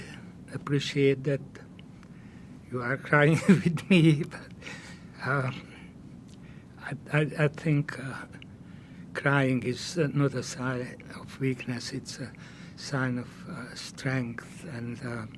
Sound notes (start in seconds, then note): 3.3 laughing